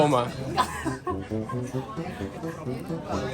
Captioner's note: laughs hard